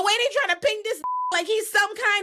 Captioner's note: beep